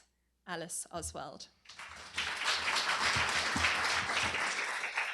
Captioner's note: applause